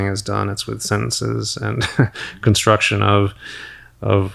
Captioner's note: chuckles